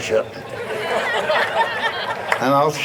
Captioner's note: audience laughs